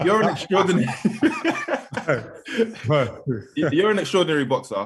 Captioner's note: both laughing